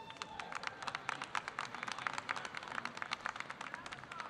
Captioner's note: audience applauding